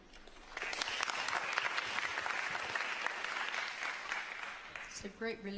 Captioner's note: applause